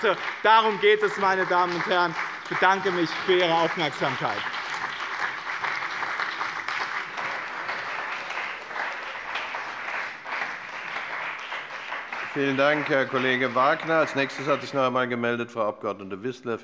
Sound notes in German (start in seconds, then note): 4.8 Beifall bei dem BÜNDNIS 90/DIE GRÜNEN und der CDU